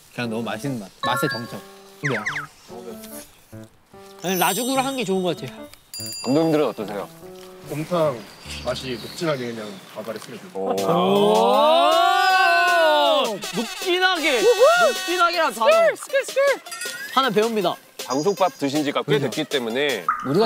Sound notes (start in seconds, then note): 10.8 exclaiming